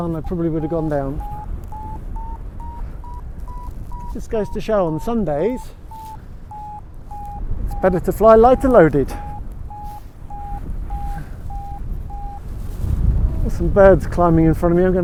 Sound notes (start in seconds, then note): 1.6 Vario beeps; 9.6 Vario beeps